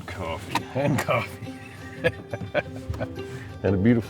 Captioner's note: laughing